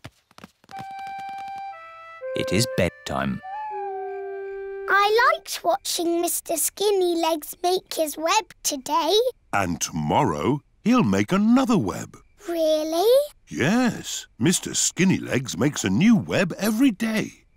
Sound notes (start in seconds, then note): 3.3 owl hoots